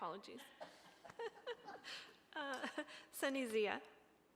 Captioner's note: laughter